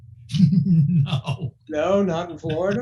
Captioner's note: laughing